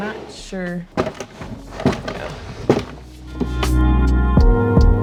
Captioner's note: drawer clacking; upbeat music